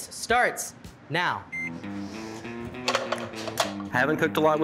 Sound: timer beeping; slow rock music

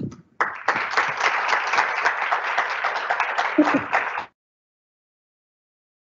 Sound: applause

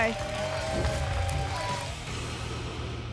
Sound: whoosh

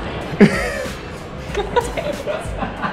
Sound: laughter

